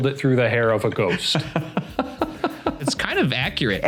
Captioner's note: laughing